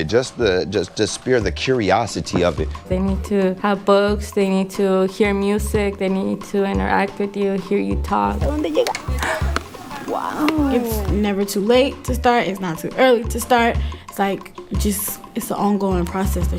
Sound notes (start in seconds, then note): 8.3 speaking in Spanish; 9.2 gasping